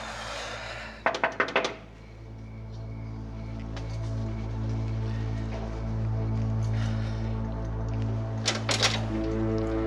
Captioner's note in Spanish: Toques en la puerta